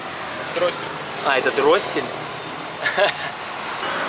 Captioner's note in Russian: смеётся